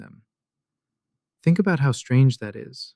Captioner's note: thoughtful